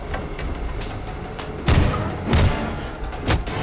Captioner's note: growling